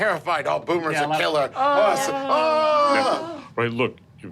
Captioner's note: moaning